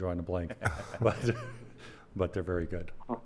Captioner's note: laughing